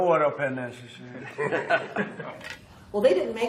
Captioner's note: laughter